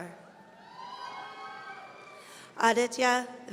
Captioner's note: audience cheering